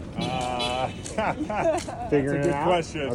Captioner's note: laughs